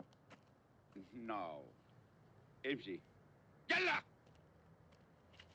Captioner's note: speaks in turkish